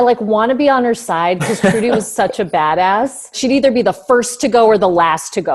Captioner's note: beep